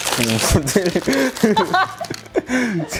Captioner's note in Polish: śmiech